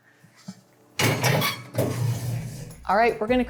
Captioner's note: banging